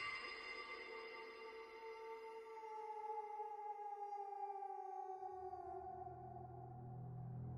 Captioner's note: wolves howling